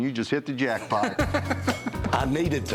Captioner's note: laughter